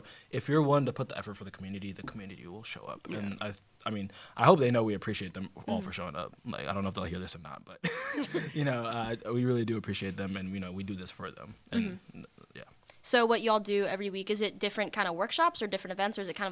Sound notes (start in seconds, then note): 7.8 laughter